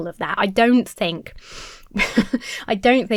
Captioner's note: laughs